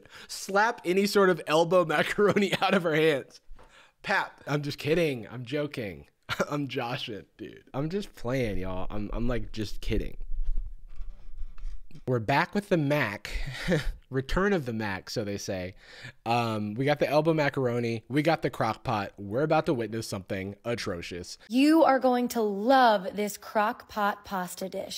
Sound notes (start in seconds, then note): 13.2 despairing laughter